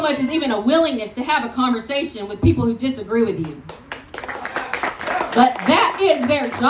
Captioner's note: applause